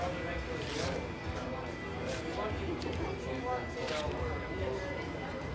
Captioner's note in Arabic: صوت المال الهش